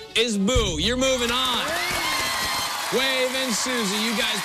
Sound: kids cheering

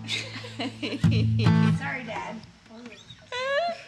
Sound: laughing

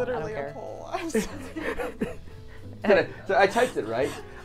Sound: all laughing

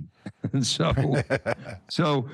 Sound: laughs

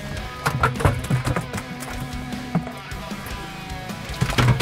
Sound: fish thudding

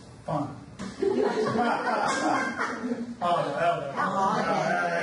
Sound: audience laughs

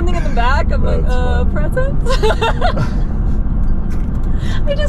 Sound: laughing

